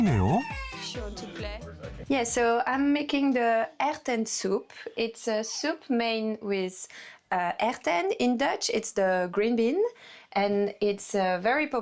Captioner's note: voiceover